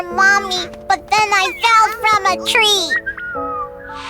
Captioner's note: weak chirping